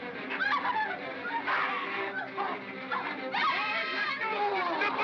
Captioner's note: suspenseful music; screaming & growling